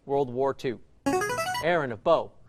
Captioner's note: chiming